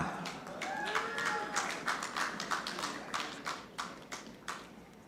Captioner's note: audience clapping